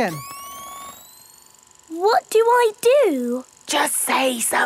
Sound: camera whirring; whispering

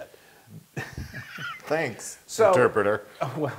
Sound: laugh

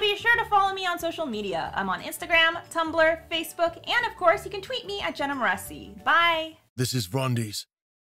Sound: rumbling Male Voice

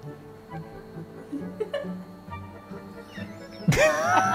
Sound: all laugh

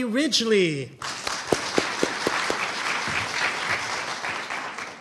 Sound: audience applauding

